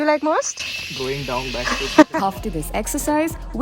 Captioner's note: laughs